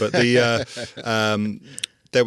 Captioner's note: laughing